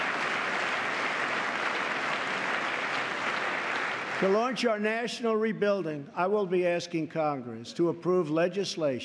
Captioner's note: applause